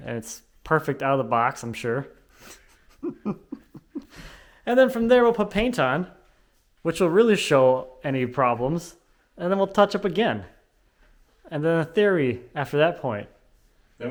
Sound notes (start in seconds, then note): 2.5 laughing